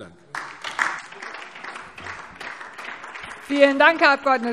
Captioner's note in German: Beifall DIE LINKE